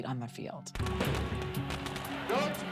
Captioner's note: firecrackers crackling